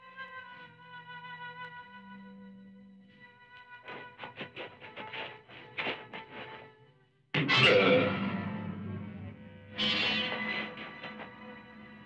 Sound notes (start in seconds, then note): none